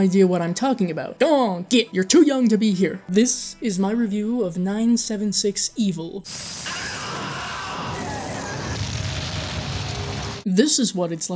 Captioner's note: man screaming